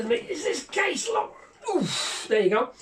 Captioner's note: strains